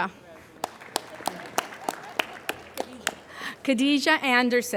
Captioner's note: applauding